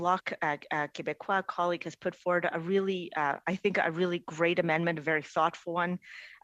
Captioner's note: speaking French